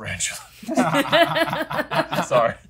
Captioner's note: laugh